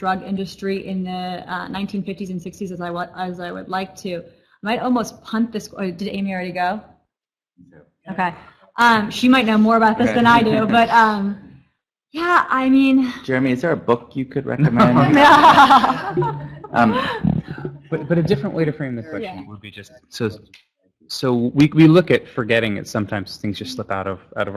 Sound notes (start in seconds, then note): 14.6 laughter